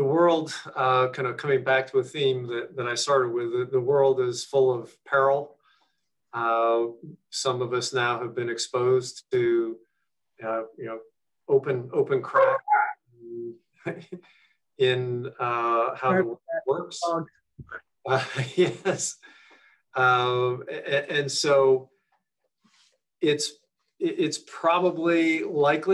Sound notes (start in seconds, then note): 12.8 dog backs; 14.8 chuckles; 18.1 chuckles